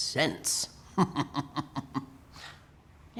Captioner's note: laughing